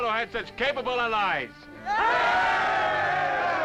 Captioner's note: cheering